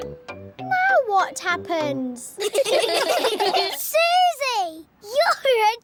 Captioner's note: all giggling